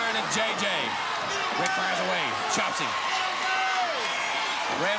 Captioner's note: hands clapping